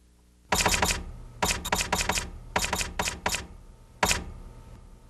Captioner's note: typewriter clacking